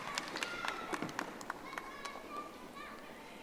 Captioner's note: audience applauding